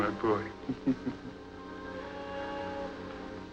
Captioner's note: chuckles